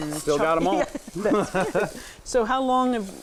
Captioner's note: laughing